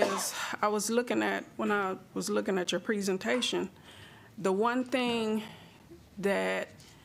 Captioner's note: laughs